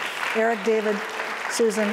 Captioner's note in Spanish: applause